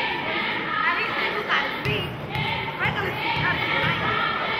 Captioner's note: chanting and cheering